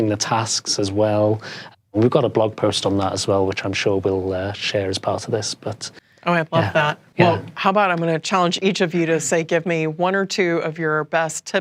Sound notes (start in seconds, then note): none